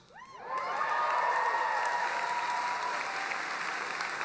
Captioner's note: applauding